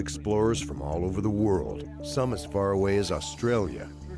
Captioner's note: voiceover